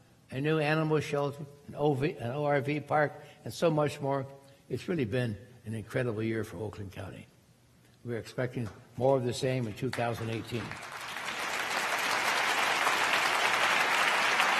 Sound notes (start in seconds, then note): 11.7 crowd applauding